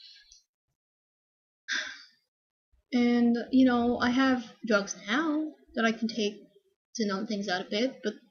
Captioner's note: sigh